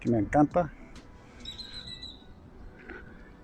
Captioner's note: birds chirping